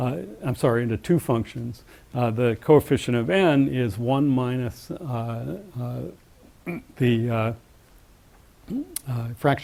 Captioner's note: cough